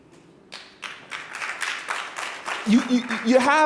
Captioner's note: audience applauding